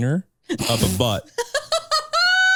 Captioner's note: laughing; chuckling